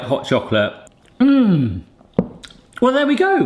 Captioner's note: moans